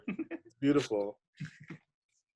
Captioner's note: laughing